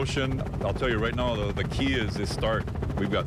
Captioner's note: helicopter chopping